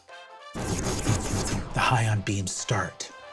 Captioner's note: vocalizes laser fire